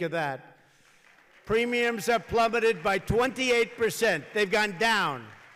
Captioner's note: applause